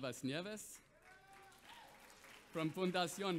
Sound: audience applauds

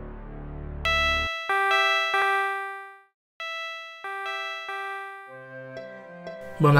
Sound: phone alarm goes off

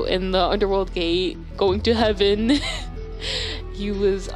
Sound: chuckle

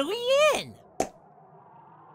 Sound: popsound.wav

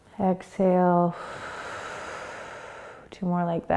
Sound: exhaling

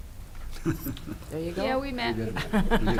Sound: chuckling

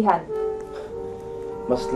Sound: scoffs

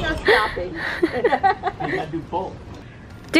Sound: women laughing

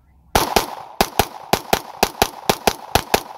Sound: gunshots

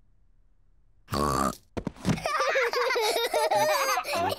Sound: kids giggle

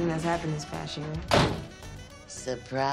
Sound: door slams

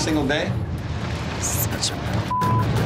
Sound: beep

